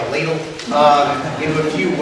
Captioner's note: audience laughs